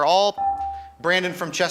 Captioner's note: buzzer chimes